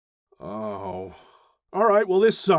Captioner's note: a deep, defeated sigh